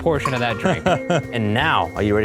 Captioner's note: chuckling